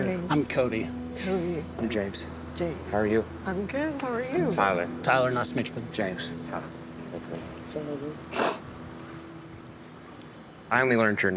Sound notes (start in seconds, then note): 8.3 sniffles